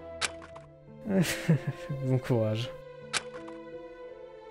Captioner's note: embarrassed laugh